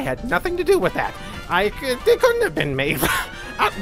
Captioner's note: cough